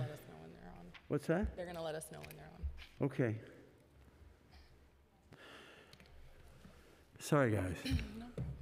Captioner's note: laughter